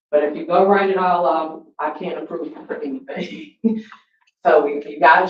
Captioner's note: laughs